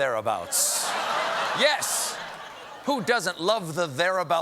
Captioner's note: laughter